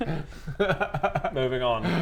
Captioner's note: happy giggles